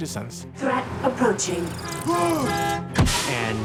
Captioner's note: horn honking